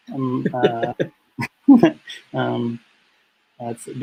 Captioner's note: laughter